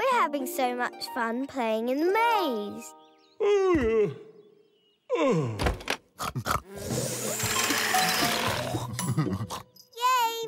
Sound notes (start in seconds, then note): 3.6 yawning; 6.1 snorting and blowing